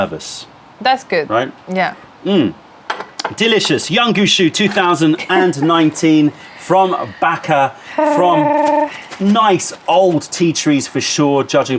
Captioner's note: sips tea